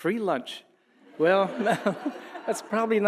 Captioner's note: audience laughing